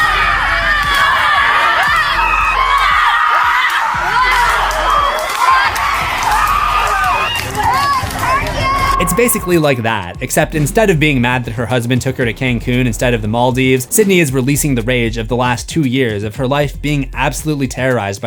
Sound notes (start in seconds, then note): 7.2 screaming